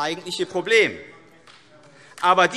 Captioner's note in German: Vereinzelter Beifall AfD